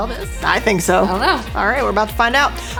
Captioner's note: mumbles